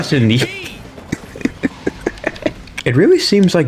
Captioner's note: laughs to myself